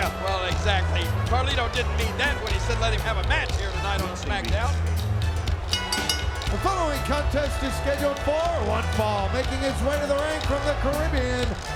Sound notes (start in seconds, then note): 5.7 bell dinging